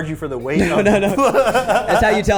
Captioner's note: people laughing